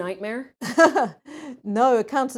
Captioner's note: laughs